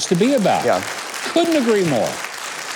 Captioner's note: audience applause